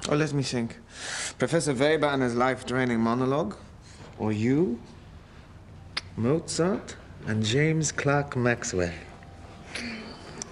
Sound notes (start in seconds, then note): 5.9 <i> kisses</i>